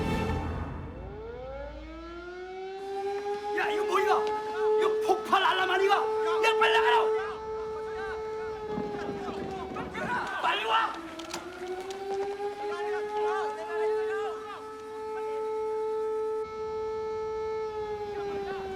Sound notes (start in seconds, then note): 0.2 alarm Blaring; 2.4 Korean; 6.7 men Shouting In Korean; 11.6 shouting Continues; 12.3 alarm Continues